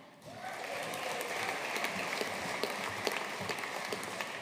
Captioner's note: audience applauding